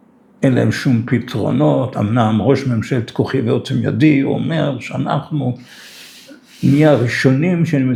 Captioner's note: snorts of contempt